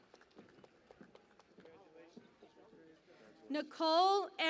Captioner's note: cheering and Applause